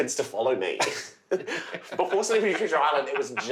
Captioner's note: laughing